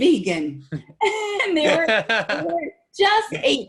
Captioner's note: laughing